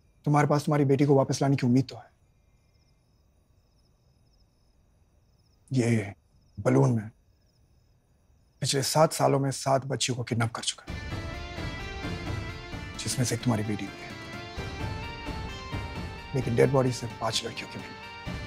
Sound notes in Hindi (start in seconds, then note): none